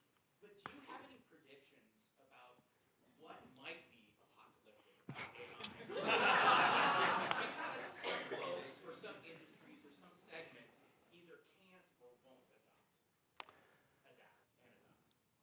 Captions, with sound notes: But do you have any predictions about what might be apocalyptic about AI? [LAUGHTER] For some industries or some segments either can't or won't adapt and adopt.